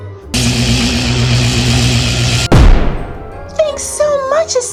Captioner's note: electrical zapping